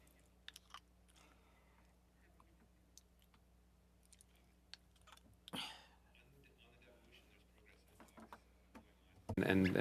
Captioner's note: silence